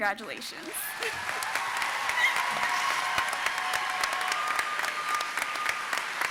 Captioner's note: audience applauding and cheering